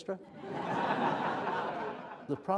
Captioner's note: laughter